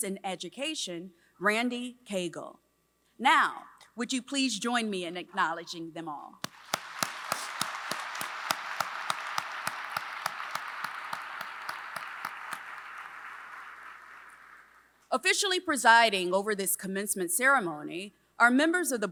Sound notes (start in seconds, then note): 6.4 applause